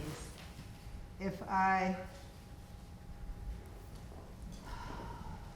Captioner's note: exhaling